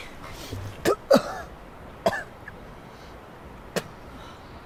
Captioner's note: Cole coughing